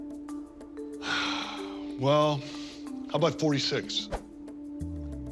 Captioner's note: sighs